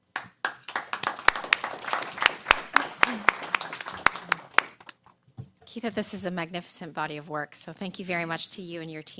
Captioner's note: applause